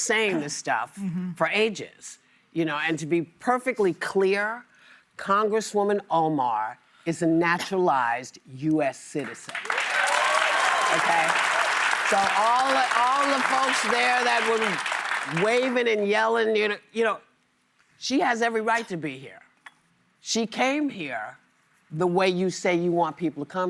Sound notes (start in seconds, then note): 13.3 applause